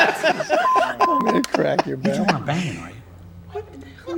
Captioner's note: laughs